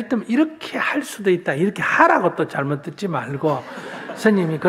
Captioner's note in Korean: 청중 웃음